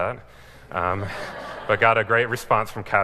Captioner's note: laughing